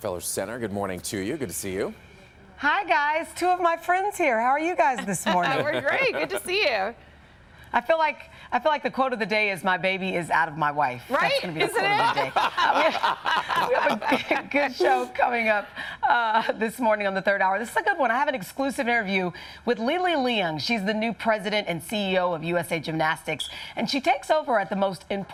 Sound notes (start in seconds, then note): 11.4 laughter